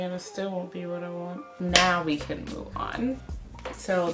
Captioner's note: claps